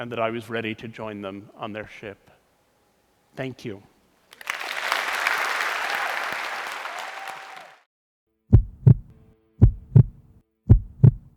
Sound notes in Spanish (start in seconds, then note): 5.8 Aplausos